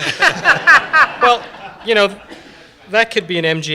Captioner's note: laughter